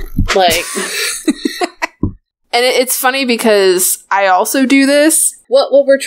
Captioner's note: laughs